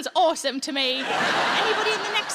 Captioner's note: audience laughs